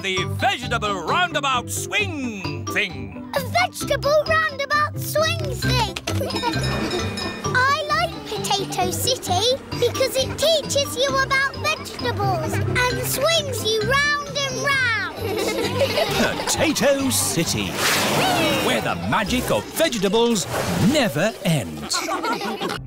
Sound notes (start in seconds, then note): 15.1 all giggling